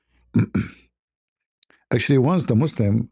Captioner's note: berdehem